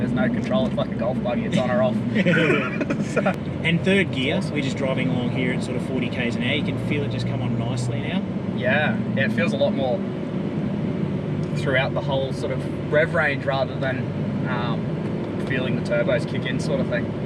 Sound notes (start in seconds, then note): 2.1 both laughing; 6.0 accelerating